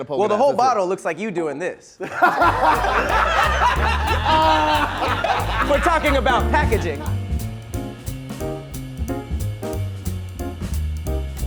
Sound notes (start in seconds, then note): 2.0 laughing; 7.3 soft music